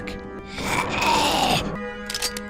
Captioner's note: gurgles